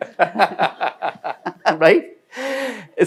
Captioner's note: panelist laughing